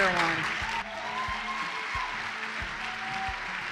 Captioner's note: applause